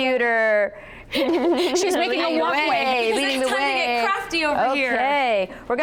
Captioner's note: chuckling